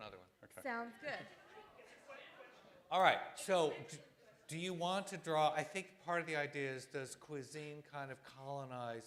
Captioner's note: audience disagrees